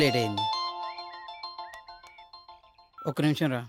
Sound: mobile rings

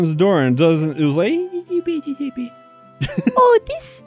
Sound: does a soft high pitch and fast rambling; chuckles

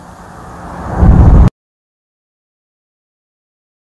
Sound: static ceases

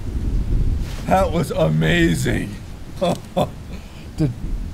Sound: laughs

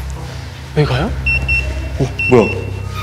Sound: beep beep

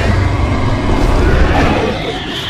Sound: Indominus Rex Roars

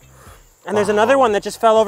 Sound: sniffing

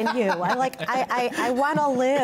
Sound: laughter

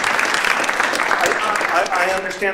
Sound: applause

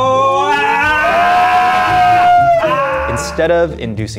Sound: cries of pain

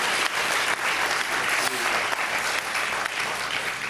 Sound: applause

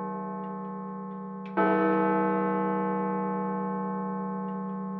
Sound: chime

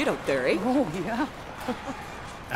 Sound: chuckles

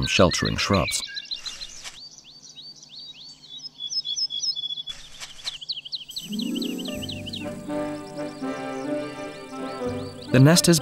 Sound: sounds of nature

